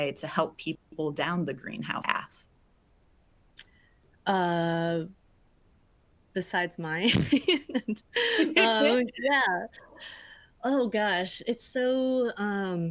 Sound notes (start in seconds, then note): 7.0 laughs